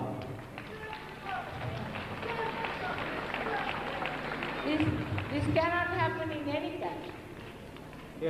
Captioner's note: applause